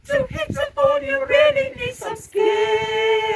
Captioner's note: none